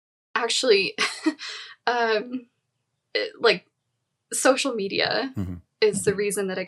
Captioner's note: chuckles